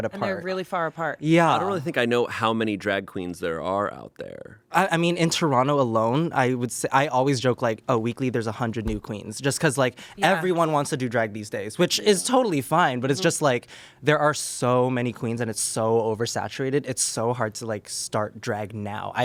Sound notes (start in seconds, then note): none